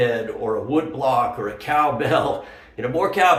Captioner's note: chuckles